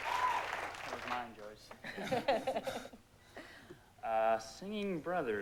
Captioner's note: mutters